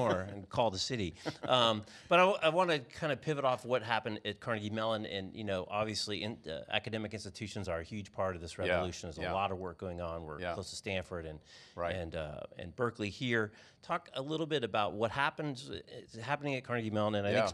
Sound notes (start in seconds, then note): 1.1 chuckles